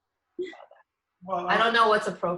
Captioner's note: laughs